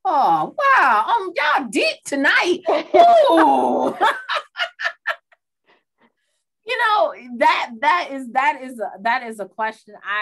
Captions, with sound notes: - Oh, wow, oh my God did tonight. (speakers laugh) You know, that is a question.